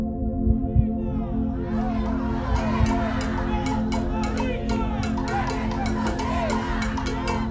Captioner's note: crowd Chants